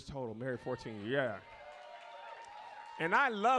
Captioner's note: audience cheers